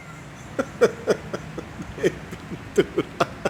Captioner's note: laughs